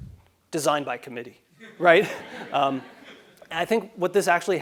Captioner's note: laugh